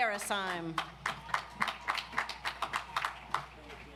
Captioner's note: audience applauds